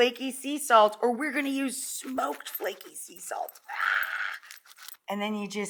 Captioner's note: vocalizes